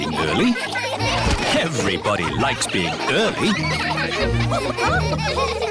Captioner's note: laughter